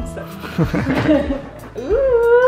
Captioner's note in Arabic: يضحكان